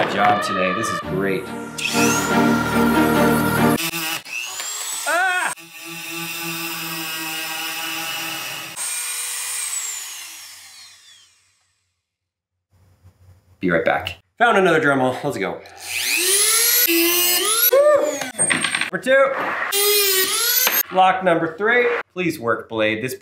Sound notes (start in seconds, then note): 2.1 metal cutting; 15.7 metal cutting